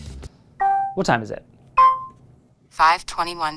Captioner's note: pin beeping